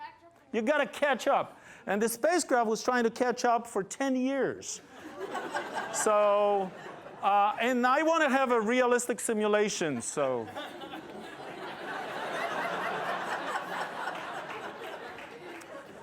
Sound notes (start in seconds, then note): 4.9 laughter; 10.2 laughter